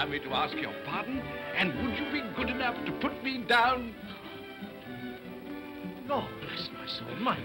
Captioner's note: whispers